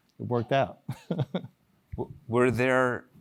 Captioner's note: laugh